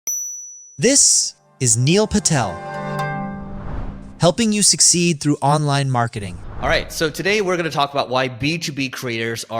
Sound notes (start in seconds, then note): 0.1 clinking sound effect; 1.4 bright music